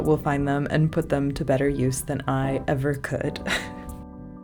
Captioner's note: laugh